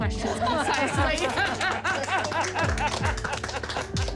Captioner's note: laughter